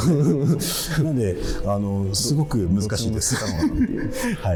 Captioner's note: laughing